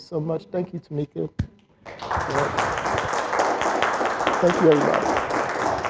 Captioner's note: applause